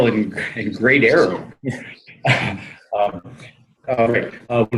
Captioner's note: laughs